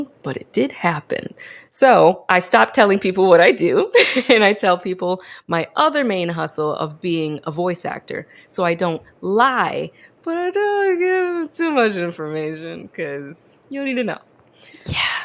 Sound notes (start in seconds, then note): 3.7 laughs